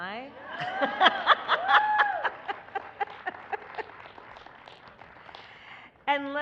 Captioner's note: laughter and applause